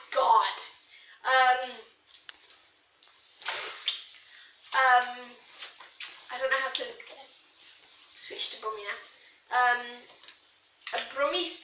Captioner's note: bad Brummie accent